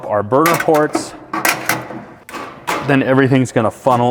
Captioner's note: diverters clanking